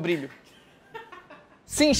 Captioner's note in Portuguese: risadas